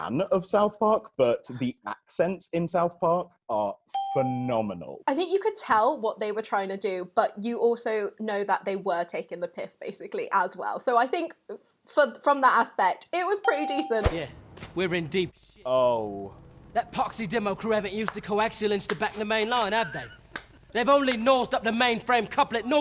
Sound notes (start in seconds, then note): 20.3 slow claps